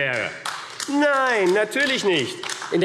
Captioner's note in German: Beifall AfD